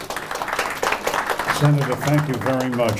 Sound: applause

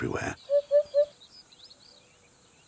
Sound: bird hooting

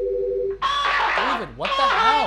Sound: indistinct cheering and laughter

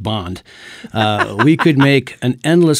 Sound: laughs

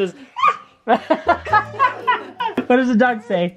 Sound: laughing

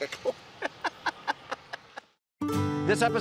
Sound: laughing

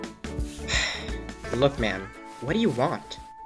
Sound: sigh

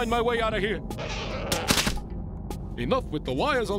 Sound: wires creaking; snap

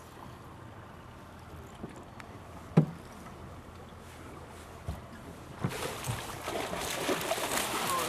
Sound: rod whipping; fish splashing

